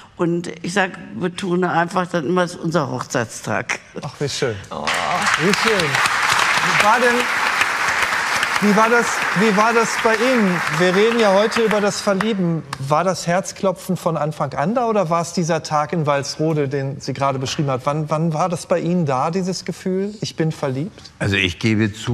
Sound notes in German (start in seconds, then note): 6.0 Applaus